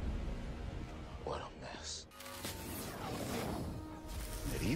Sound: electronic warping sounds

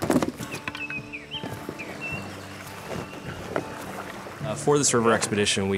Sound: paddles clicking gently

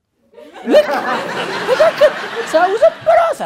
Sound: laughter

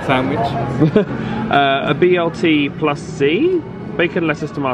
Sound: laughs

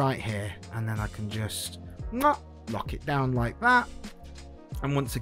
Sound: mwah

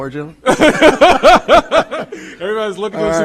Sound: laughs

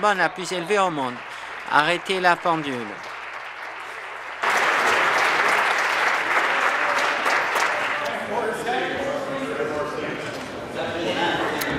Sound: applause

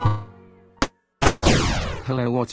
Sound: gunshot

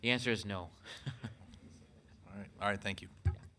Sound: chuckles

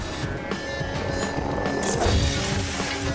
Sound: Manhack blades whirring; metal smashing

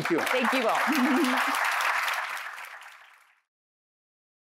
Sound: applause

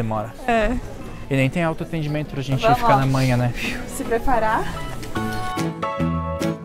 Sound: breathing

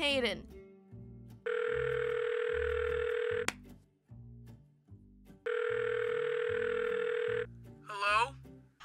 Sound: phone dialing

